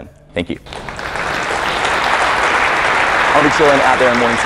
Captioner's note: applause